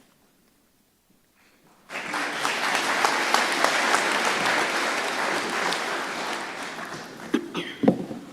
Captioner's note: applause